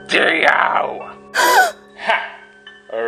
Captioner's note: gasp